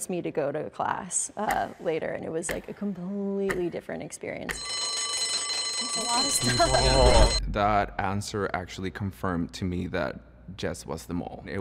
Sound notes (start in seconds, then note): 4.5 alarm bell rings